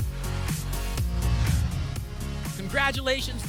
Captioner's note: whoosh